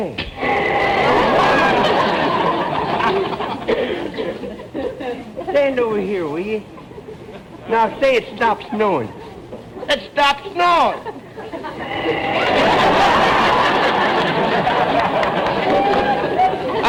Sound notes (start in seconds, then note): 0.1 loud poof; 0.5 audience laughter; 11.8 poof; 12.7 audience laughter